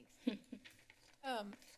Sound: chuckles

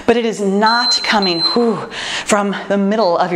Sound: timer beeps

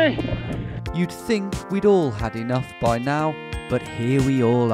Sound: voiceover

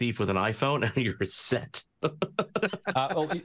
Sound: laughs

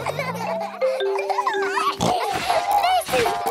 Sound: all laughing; giggles, snorts

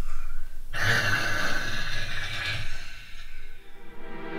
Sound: inhales sharply

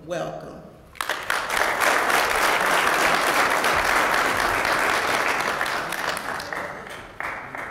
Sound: applause

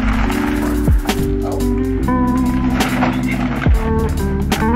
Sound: lo-fi music; plastic rustling

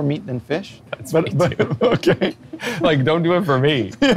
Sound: laughs

